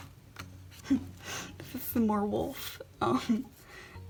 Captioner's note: laughs